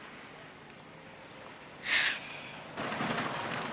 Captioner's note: mary sighs